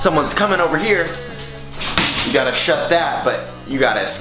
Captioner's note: door slams